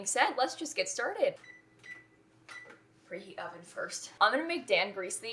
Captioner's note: beeps